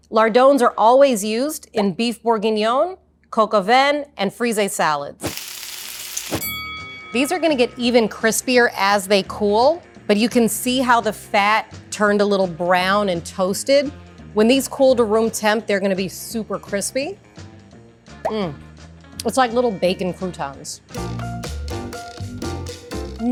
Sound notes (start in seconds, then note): 5.2 bacon sizzling; 6.4 bell rings; 18.2 upbeat music; 20.9 bright music